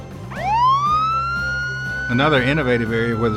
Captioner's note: siren